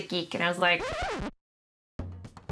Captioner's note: abrupt record scratch sound effect